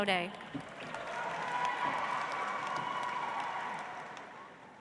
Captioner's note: audience applauds